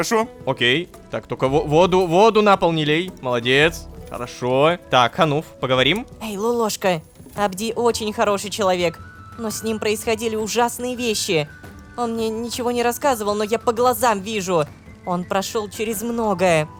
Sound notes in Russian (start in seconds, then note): 6.3 шепотом